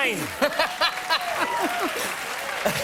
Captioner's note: applause